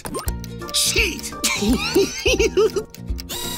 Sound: giggling

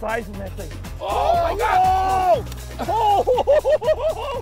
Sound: cheering

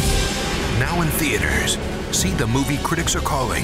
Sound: voiceover

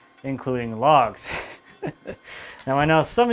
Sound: laughs

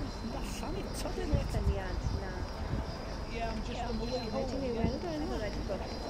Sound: sharp screeches

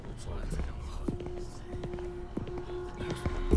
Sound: footsteps

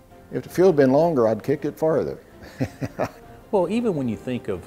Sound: laughs

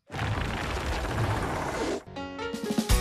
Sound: whirring

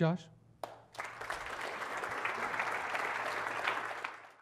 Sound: applause

